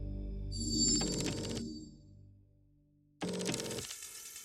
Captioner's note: text whirring